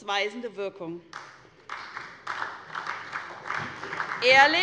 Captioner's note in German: Beifall bei der SPD